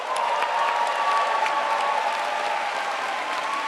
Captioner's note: crowd applauds